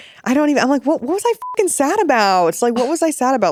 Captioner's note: beep